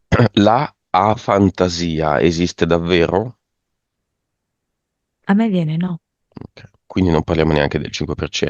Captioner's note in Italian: schiarire la voce